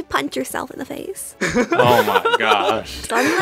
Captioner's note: laughs